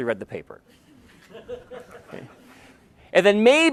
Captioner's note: laughter